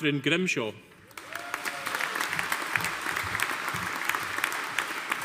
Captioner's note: audience applauding